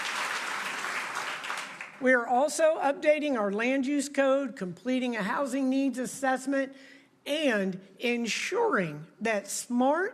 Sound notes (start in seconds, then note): 0.0 applause